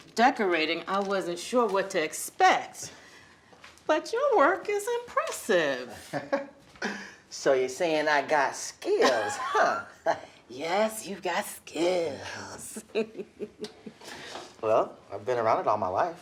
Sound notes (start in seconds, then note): 6.0 E.J. laughs; 12.4 laughs